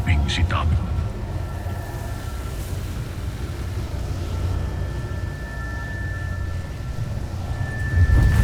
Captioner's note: evil energy whoosh & crackle; music swells